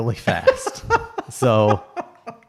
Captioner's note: laughs